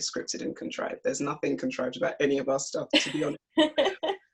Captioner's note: laughs